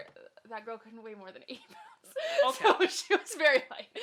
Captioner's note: laughs